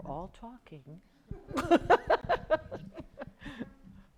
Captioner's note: laughing